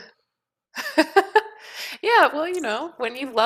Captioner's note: laughs